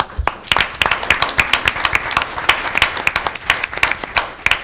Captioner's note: audience applauding